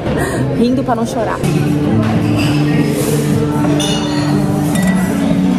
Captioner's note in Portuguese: ambiência de restaurante